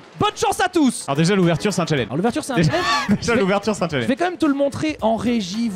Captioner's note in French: rire